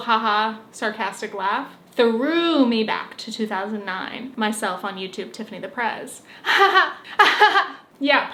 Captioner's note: sarcastic laugh